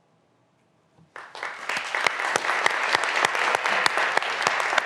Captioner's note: graduands applauding